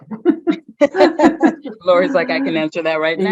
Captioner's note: chuckles